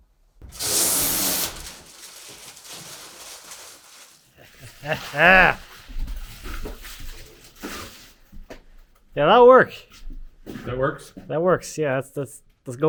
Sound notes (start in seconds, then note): 0.5 plastic squeaking; 4.7 speaker exclaiming